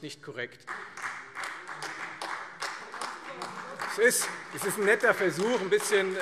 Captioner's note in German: Beifall Freie Demokraten und AfD